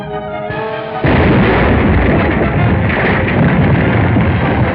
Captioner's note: explosion